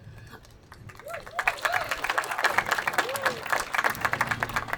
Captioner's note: attendees applauding